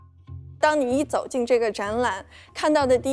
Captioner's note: Mandarin